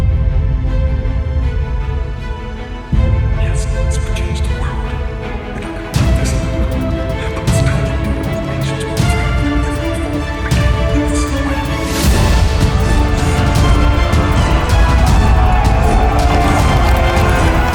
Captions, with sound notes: (dramatic orchestral music) - Yes, this will change the world! They're not gonna like this but it's time to do it! The nations will thrive like never before. (soldiers yell)